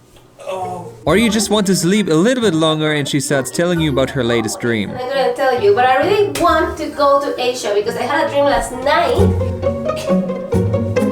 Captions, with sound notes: or you just want to sleep a little bit longer and she starts telling you about her latest dream *talking like a crazy person..*